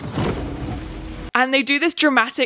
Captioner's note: water splashes